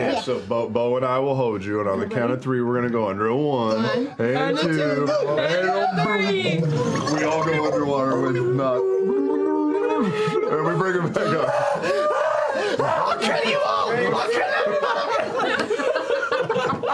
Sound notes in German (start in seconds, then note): 10.7 blubbern